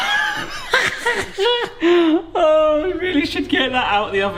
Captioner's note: laughs